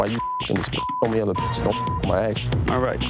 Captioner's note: beep